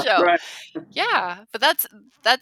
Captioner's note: laughing